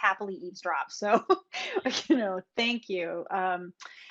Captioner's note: chuckles